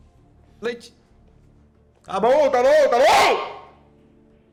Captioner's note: screaming